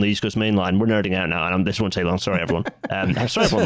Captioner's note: laughs